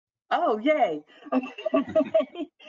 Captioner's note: laughs